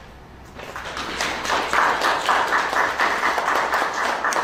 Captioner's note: applause